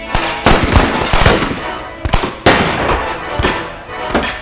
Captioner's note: guns firing; dramatic music